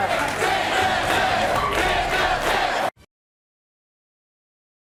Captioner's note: audience chanting